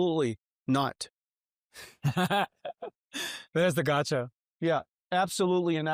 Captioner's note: chuckles